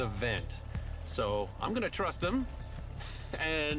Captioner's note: laughs